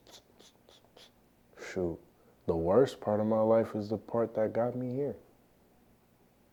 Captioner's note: clicking tongue